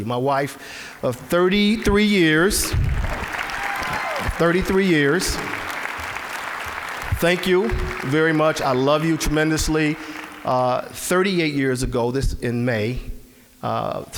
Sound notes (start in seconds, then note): 2.9 applause; 6.3 applause